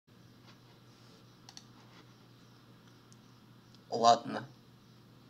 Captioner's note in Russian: Тишина